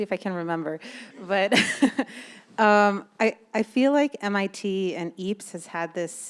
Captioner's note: laughs